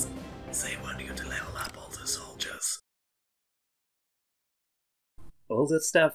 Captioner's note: whisper